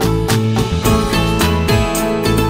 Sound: mouthing

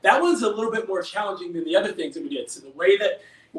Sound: none

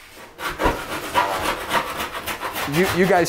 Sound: loud sawing

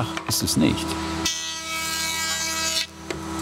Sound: machine noise

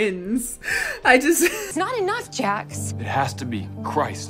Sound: laughs

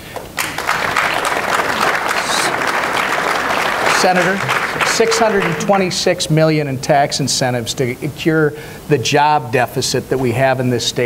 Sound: applause

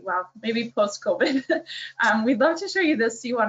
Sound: laughs

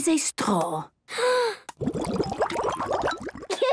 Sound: water bubbling

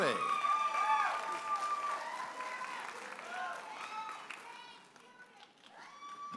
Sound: audience applauding and cheering

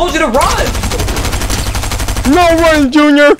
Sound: rapid gunfire

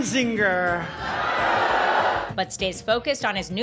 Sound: crowd boos

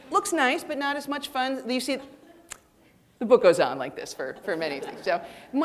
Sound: clicks tongue

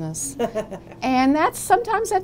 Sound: laughter

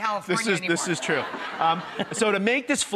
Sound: laughing

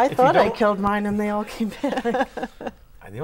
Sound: laughing

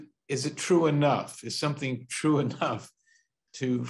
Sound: chuckles

